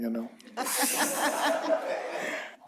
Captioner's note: laughter